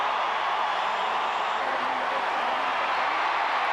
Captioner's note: crowd cheering